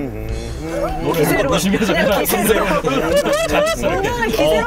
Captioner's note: humming casually pretending he's chill